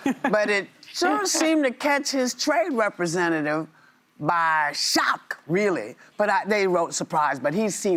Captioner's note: laughter